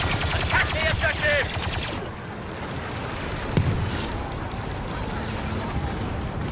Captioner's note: lasers blasting